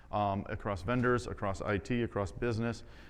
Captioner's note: none